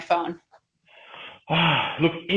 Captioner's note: sighing